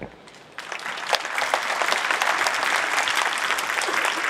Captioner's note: audience applauding